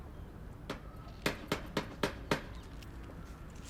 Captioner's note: Diane knocking